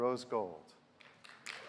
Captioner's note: applause